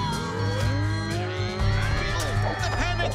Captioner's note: buzz